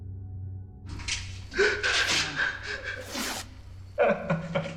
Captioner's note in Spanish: Sonido al despegar la cinta adhesiva